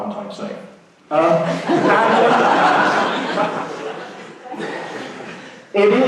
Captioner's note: laughing